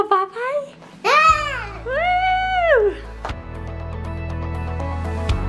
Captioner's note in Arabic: يصرخ بحماس